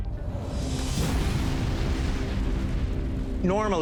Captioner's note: rumbling explosion